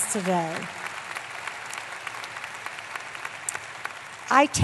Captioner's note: applause